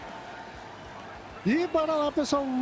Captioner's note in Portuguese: aplausos